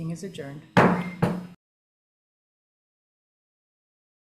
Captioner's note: gavel tapping